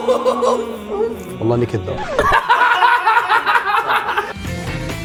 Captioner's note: all laugh